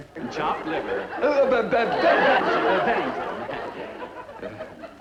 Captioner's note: audience laughing, Dooley stammering